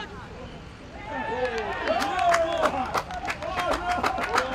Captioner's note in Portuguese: gritos de gol